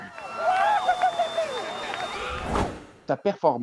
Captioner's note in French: cris de joie